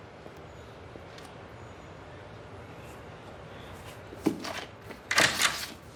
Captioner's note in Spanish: Sonido al abrir y cerrar la puerta